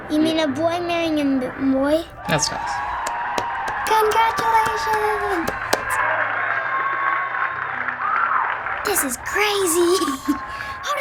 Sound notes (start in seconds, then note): 2.2 in video: cheering; 6.0 in video: cheering and applause continues; 9.8 giggles